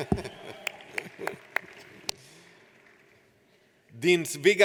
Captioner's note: audience applauds; laughs